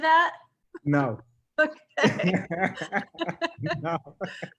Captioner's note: both laughing